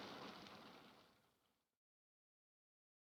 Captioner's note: none